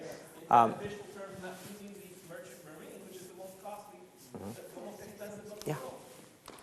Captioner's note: speaks faintly